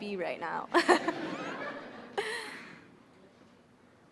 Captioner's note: audience laughing